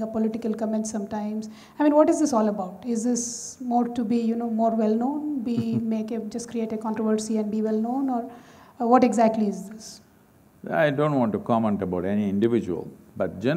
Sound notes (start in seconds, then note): 5.5 Sadhguru Laughs